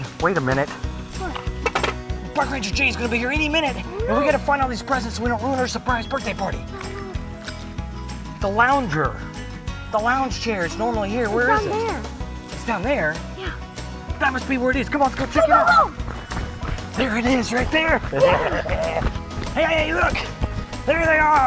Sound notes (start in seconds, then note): 18.0 laughing